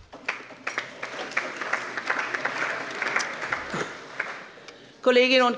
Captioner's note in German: Beifall